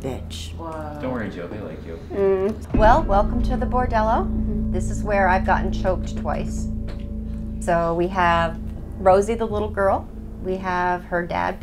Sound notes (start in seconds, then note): none